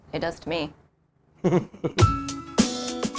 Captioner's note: laughs; pleasant music